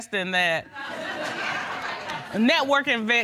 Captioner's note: laughter